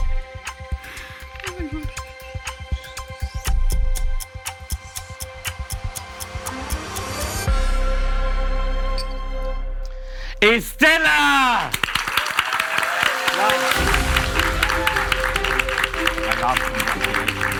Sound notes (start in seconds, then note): 11.0 audience applauds and cheers; 13.7 stirring music